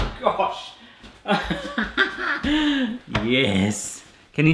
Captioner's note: laughs